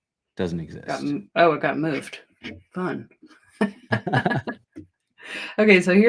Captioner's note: laughter